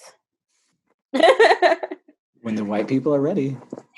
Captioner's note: laughs